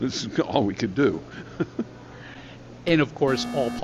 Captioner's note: laughing